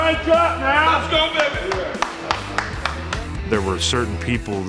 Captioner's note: claps